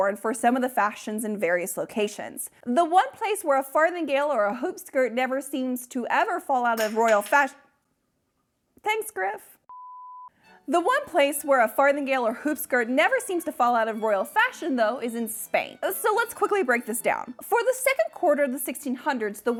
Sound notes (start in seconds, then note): 6.7 hard object clatters; 9.7 beeping